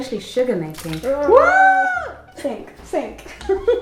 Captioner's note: calls out in surprise; laughs